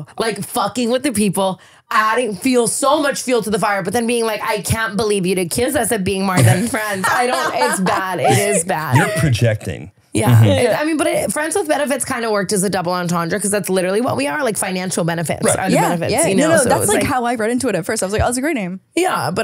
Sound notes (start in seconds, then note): 6.3 laughing